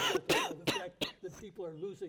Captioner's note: panelist coughing